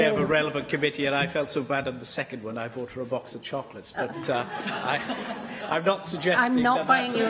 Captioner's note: laughter